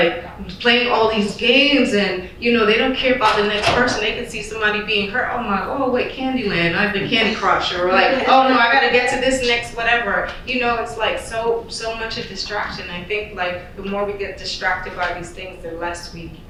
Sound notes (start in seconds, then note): 8.0 laughter